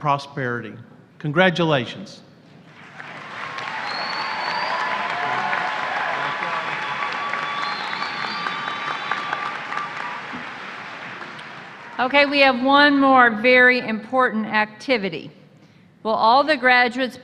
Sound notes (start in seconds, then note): 6.2 applause